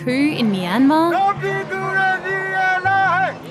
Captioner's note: protester shouts in own language